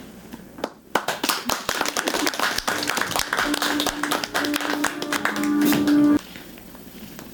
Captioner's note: applause